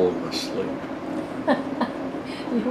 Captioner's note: laughter